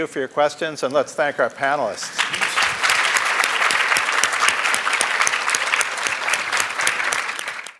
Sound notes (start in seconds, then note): 2.0 applause